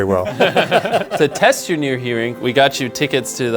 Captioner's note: all laughing